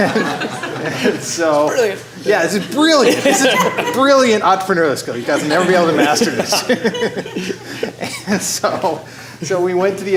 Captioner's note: laughter